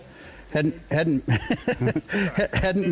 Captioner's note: chuckles